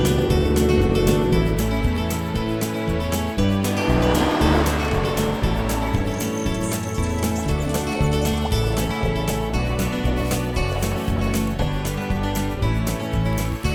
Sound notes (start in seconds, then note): 0.1 boat motor; 1.8 wind rustling; 3.9 atv rumbling